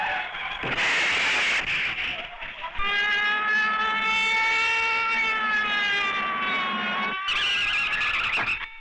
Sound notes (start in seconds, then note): 2.8 police Sirens Wailing; 7.1 tires Screeching